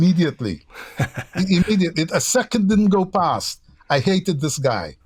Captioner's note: laughter